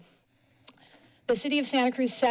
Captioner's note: tongue clicks